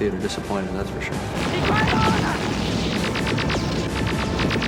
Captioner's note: guns firing